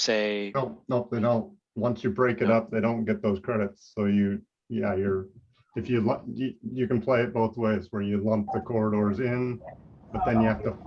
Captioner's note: rushing